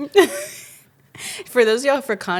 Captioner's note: laughs